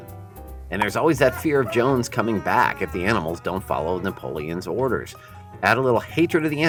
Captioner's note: Mr Jones crying for his farm back